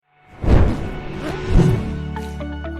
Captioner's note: fiery explosion; motivating orchestral music